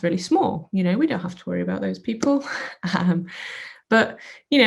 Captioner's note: scoffs